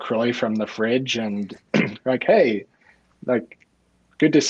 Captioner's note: clearing throat